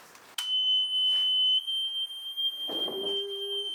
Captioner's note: engine start beep